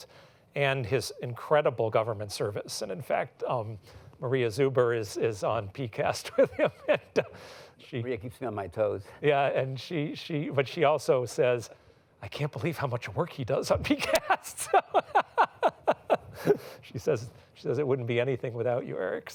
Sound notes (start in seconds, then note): 13.9 laughs